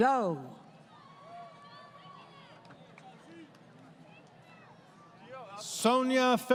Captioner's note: crowd Cheering